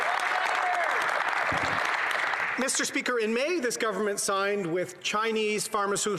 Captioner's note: some Applause